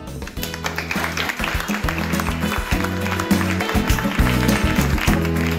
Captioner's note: applause